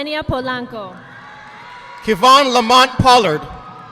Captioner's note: audience applauding